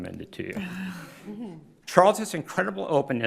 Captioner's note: crowd chuckles